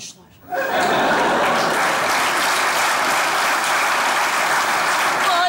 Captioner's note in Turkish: Alkış sesleri